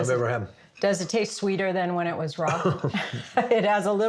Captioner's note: laughs